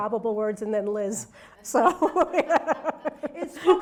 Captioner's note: laughs